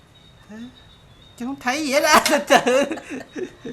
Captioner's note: laugh